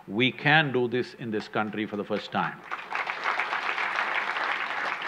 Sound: applause

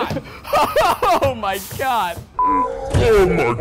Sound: laughing

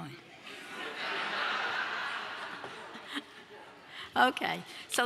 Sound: audience laughs

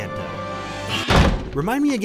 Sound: door slams

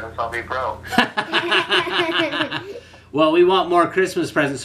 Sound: laughs

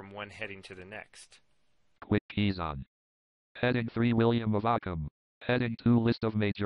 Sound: JAWS Screen Reader Voice

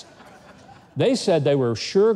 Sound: laughs

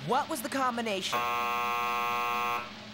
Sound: buzz!

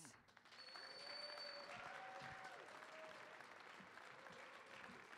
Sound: audience applauding

